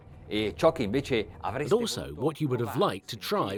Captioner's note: speaking in a foreign language